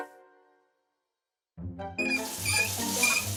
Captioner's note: knob squeaking